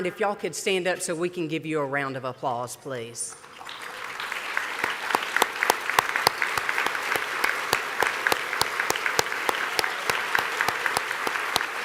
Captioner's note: applause